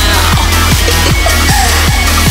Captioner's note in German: Kichern